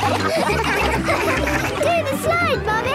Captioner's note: all laughing